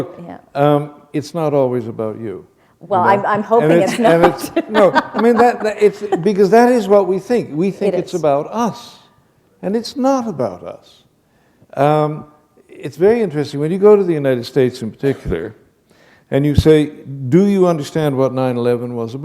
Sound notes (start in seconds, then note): 3.7 laughter